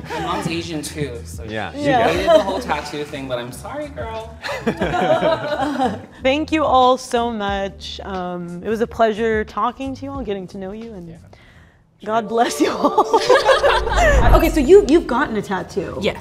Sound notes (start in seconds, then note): 4.4 people laughing; 12.4 choir singing; 12.6 people laughing